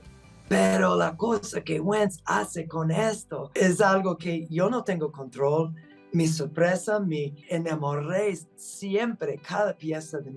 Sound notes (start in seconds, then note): 1.4 speaking Spanish